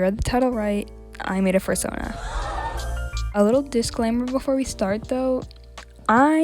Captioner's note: gasps